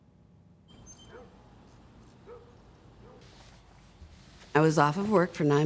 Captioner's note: birds chirping, dog barking